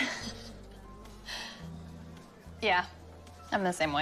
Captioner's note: laughs